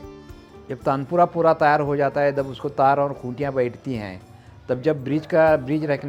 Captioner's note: speaking foreign language